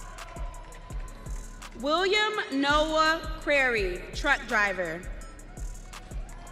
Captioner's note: audience cheering